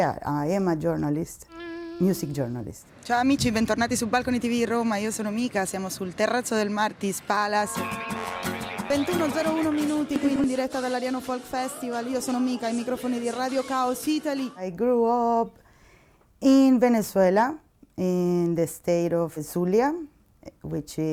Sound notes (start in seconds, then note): 3.2 speaking Italian